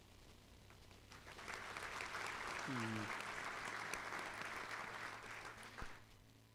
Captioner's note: applause